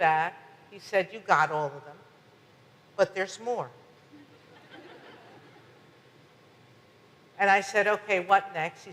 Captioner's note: audience laughs